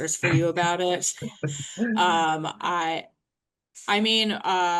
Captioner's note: laughing